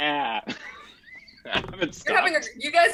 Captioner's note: laughs